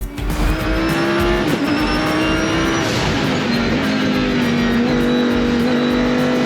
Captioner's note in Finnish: Lihava kissa kehrää